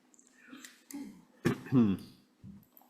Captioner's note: clears throat